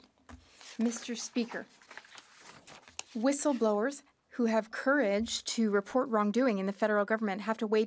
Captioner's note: speaking French